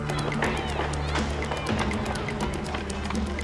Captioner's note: clamoring voices